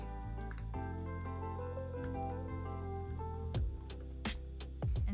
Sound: typing sounds

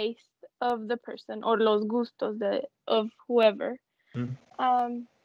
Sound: speaking foreign language

